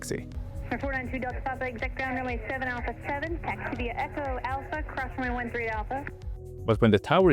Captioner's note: ATC radio chatter